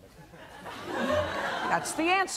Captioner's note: laughter